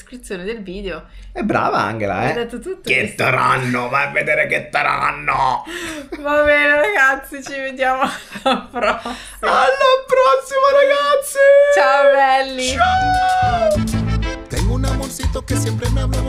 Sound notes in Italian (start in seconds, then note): 5.3 risate